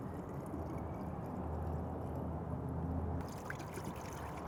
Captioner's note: liquid pouring